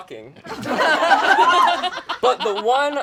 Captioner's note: all laugh